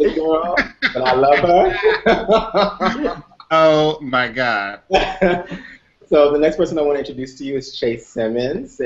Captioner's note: laughter